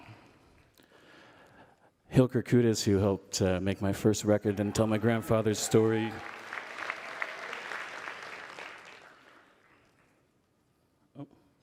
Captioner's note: cheering and Applause